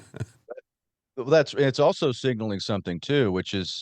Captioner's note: laughs